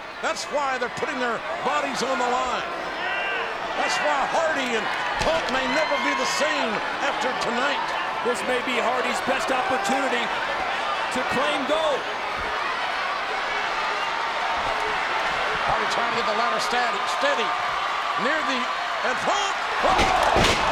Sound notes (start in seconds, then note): 13.1 audience cheering; 19.8 body thuds